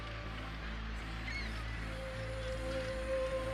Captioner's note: squawking